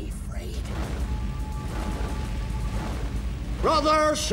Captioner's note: sword whooshing